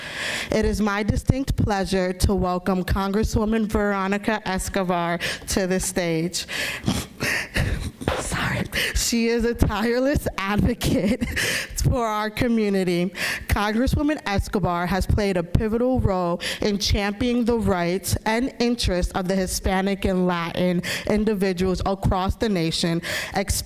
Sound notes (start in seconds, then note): 6.7 laughs